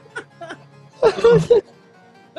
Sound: sighs; laughter

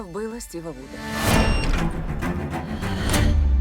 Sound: safe beeps

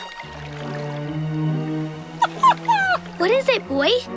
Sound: whimpering

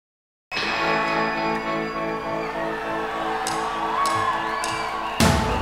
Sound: applause

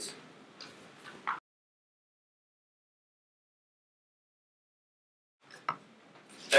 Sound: silence

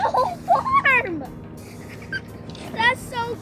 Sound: laughing

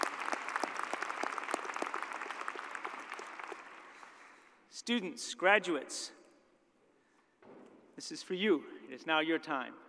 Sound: cheers and applause

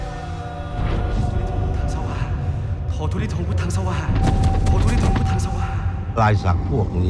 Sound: chanting / Praying

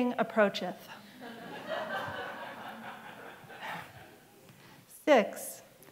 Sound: laughter

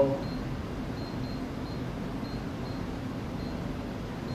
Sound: power level beeps

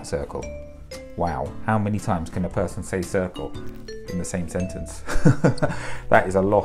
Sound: laugh

